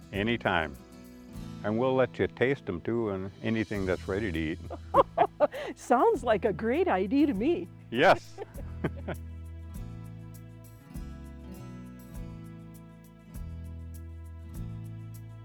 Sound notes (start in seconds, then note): 4.6 chuckle; 8.0 chuckle; 10.5 light music